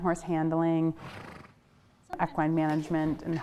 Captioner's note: foal exhales